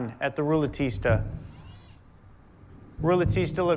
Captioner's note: whirring